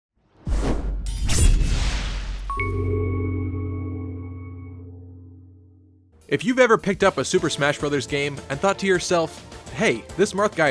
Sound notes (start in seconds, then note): 0.4 swoosh; 1.0 sword slash; 2.5 intro jingle